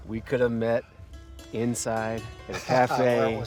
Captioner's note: laughs